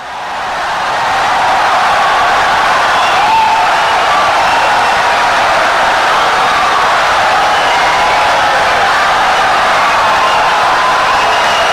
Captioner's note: wild applause and cheering for 17 seconds